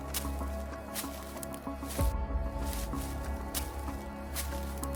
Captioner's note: leaves rustling continues